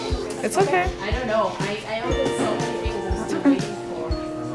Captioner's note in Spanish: Charla de fondo